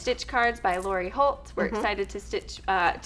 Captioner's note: hums in agreement